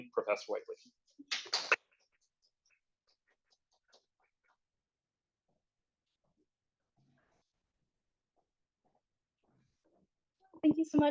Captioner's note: applause